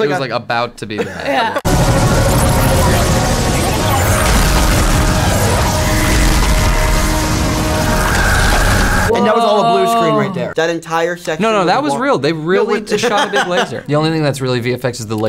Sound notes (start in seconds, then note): 1.6 laser noises; 12.6 laughter